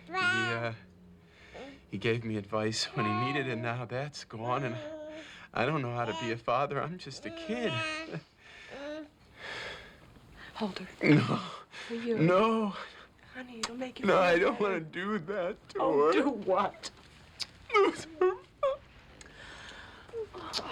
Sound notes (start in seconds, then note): 9.1 baby gurgling; 17.6 crying